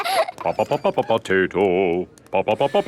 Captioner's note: children laughing; sing-song voice